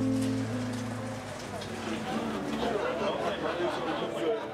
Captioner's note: crowd chattering